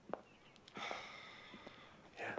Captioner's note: sighs